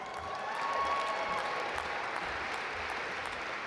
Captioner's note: audience applaud